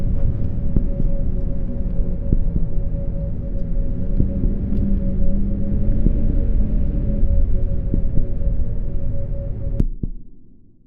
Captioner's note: heartbeat begins repeating; ambient noise cuts off, heartbeat remains